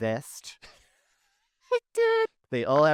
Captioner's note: laughing